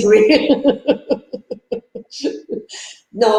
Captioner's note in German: Lachen